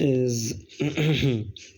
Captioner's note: clears throat